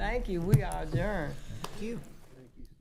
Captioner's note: hitting table